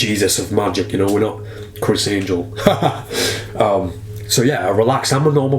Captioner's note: laughs